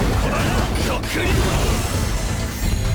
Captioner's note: yelling